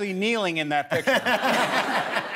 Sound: laughter

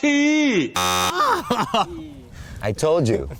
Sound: laughing

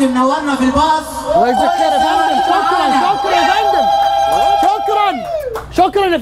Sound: ululations

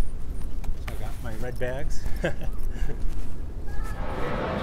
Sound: chuckles

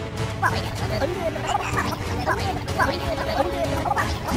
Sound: germs gibbering

